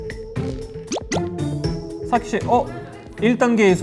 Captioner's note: confident